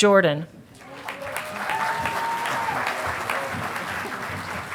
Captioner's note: audience applauding